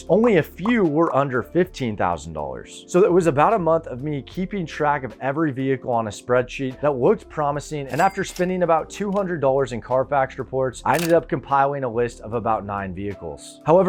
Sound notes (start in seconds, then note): 7.8 cash register dings